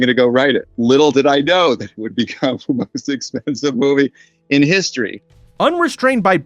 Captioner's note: laughing